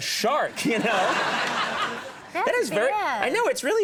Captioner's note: audience laughing